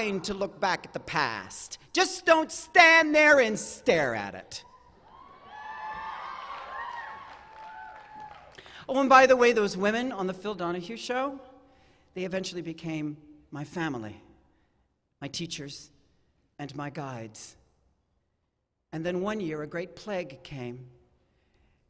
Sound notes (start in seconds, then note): 8.4 cheers and applause; 10.4 cheering